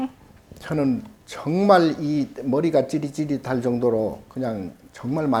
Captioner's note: speaking Korean